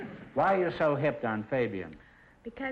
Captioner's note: none